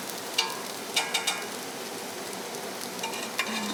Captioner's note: sizzling kitchen sounds